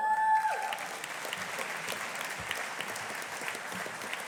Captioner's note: audience applauding